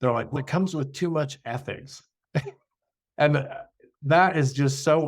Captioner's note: laughs